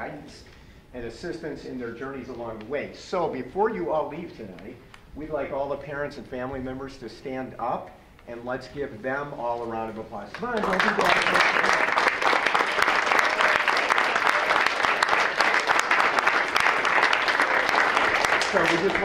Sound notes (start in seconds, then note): 10.4 audience applause; 10.7 applause drowns out speaker